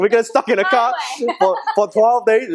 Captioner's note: laughing